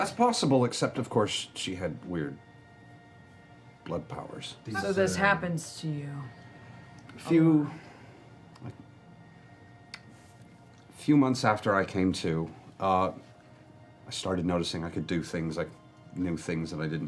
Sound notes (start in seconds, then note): none